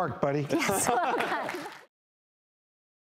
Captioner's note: laughter